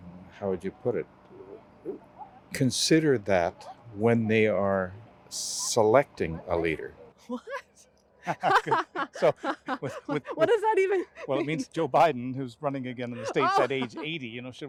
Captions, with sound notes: how would you put it? Consider that when they - are selecting a leader. What? [Laughing] So, with-- What does that even-- Well, it means Joe Biden, - who's running again 80, you know, should - in the States at age